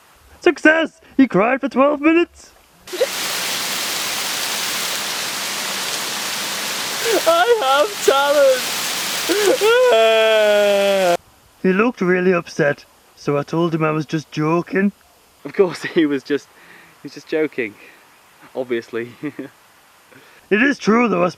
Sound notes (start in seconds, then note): 6.3 cries